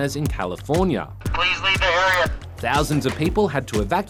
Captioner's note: over tannoy